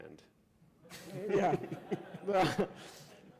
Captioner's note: laughter